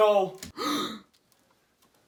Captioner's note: gasps